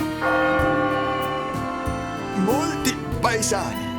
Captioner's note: church bells tolling